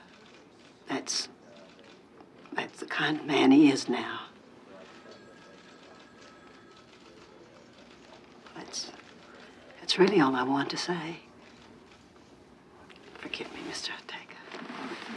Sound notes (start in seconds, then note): 4.7 phone ringing